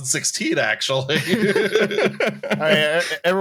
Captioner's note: laughter